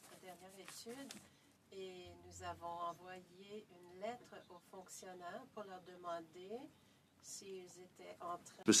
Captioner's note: speaking French